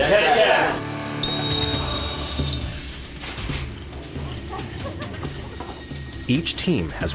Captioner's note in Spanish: silbato sopla